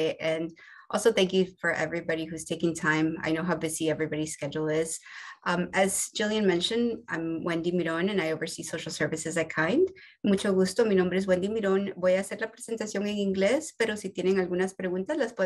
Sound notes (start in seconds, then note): 10.2 speaking Spanish